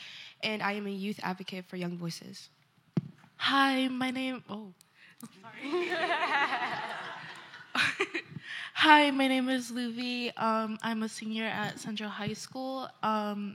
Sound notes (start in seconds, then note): 5.6 laughter